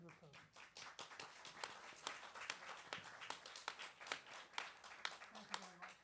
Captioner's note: applause